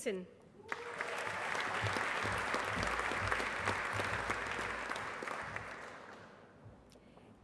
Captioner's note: applause